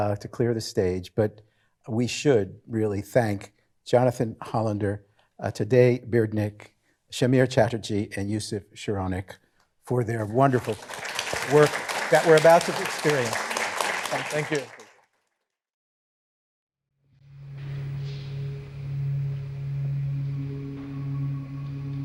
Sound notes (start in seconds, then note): 13.0 audience applauding; 17.3 music playing softly